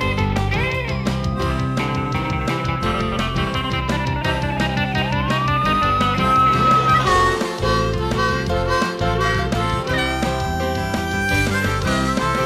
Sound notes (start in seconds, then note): 1.2 siren wailing; 7.0 upbeat music